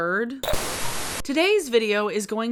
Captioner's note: static